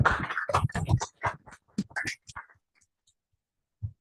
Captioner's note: applause